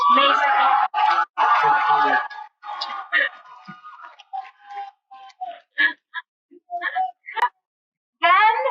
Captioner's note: cheering